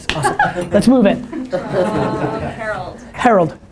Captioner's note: laughter